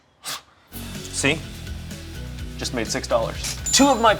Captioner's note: scoffing